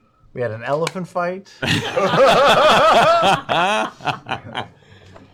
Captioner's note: laughter